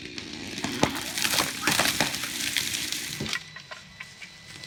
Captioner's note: tree crashing